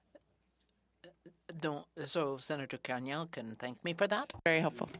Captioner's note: speaking French